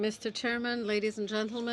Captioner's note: speaking French